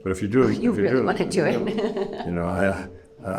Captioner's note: laughs